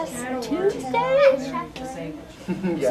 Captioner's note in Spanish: Conversaciones de fondo